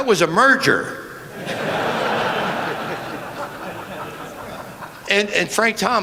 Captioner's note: laughter